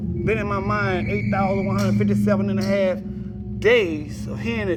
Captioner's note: whistle blowing